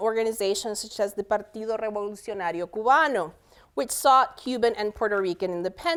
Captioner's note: speaking spanish